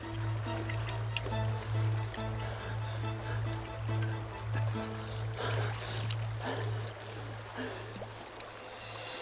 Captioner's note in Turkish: Nefes sesi